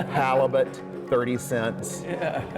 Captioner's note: laughing